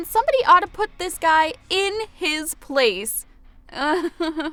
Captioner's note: awkward chuckles